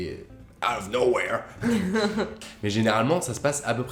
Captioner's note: laughters